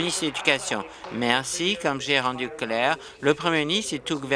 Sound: applause

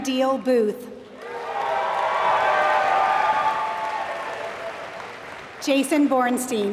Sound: applause

